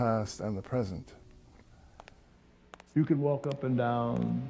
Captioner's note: footsteps echoing